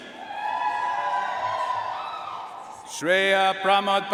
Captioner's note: audience cheering and applauding